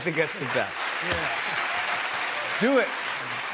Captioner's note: cheers and applause